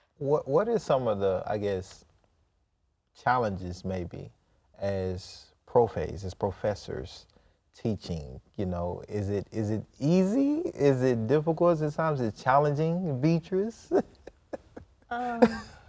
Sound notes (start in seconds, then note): 4.9 in Spanish; 13.5 laughs